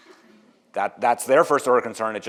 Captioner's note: audience laughs